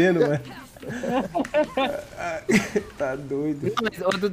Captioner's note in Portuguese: risos